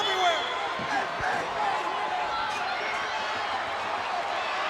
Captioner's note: crowd clamoring